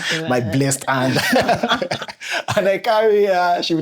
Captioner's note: laughter